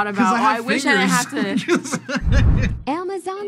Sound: laughs

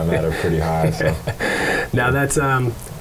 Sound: laughs

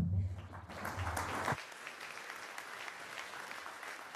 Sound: applause

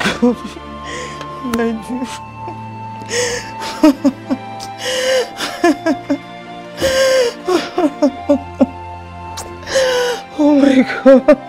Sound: crying

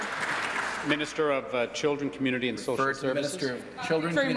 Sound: applause

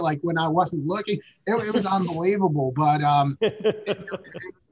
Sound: laughing

